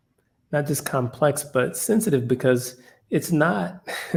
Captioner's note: laugh